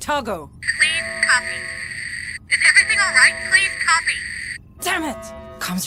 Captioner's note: Static